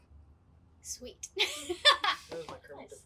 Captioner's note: laughs